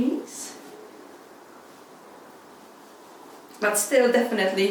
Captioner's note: fabric rustles